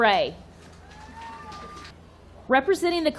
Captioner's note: audience cheering